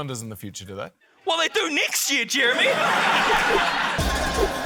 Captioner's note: laughter